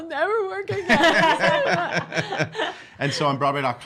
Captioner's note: laughing